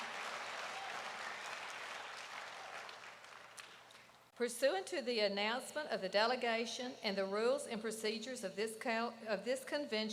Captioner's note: applause